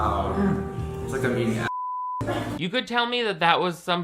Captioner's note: beep